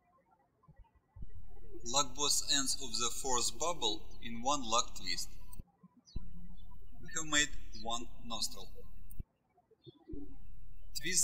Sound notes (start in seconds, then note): 6.0 birds chirping